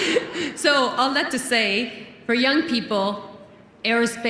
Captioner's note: laughter